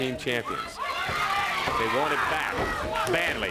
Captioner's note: crowd cheering